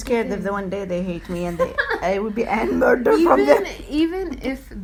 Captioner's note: laughs